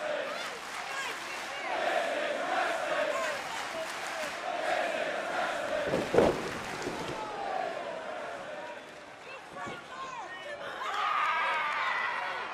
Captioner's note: crowd cheering